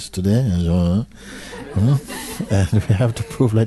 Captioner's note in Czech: smích